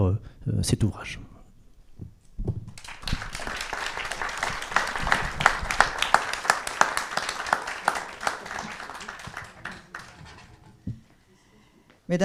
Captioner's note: applause